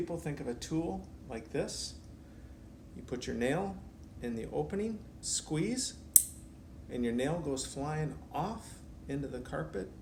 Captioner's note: snap